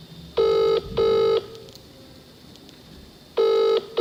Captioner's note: phone ringing